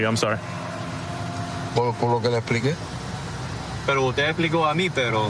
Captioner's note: speaking spanish